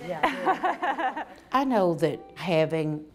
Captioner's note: laughing